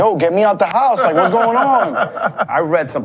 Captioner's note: laughs